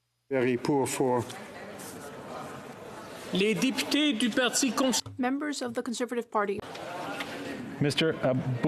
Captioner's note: speaking French